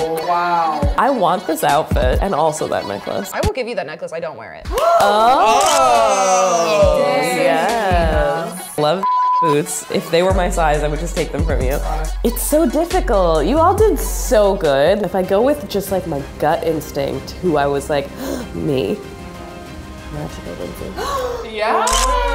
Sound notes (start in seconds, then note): 18.1 gasps; 21.0 gasps